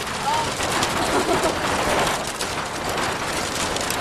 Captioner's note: laughing